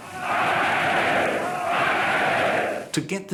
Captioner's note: chanting "Heil"